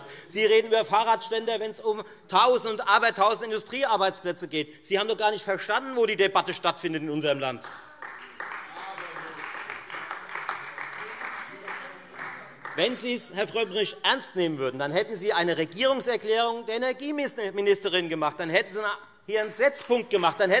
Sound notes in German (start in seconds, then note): 7.5 Beifall Freie Demokraten und AfD